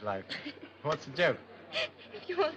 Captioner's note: soft laughter